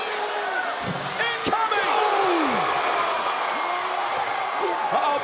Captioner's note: crowd roars